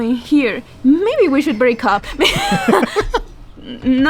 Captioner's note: laughs